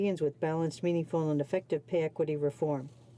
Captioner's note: speaking in french